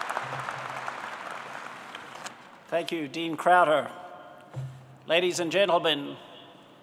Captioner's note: applause